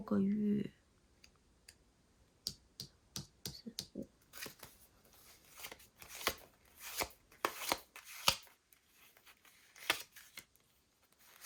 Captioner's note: drawing cards